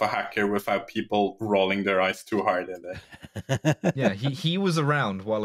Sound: laughs

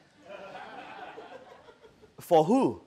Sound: audience laughing

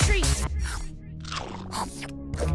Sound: munching

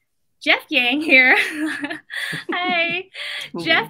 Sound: laughs

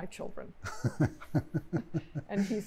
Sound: laughter

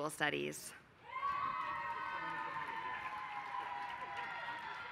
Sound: applause

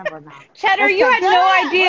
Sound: laughing

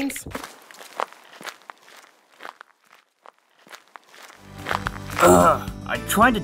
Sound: footsteps

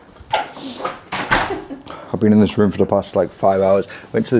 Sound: door clattering

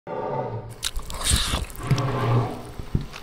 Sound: scary growling, swiping and gooey sounds

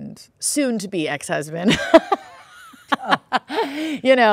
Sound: laughing

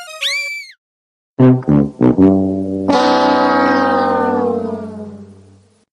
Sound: the losing horn from the price is right sound effect

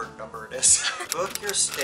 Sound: both laughs

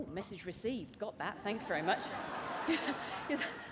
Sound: laughter

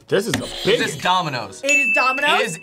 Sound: buzzer rings

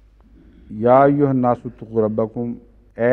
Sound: Arabic

